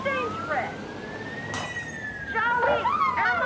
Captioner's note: sound of breaking glass